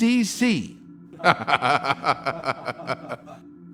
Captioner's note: laughing